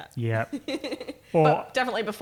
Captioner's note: laughing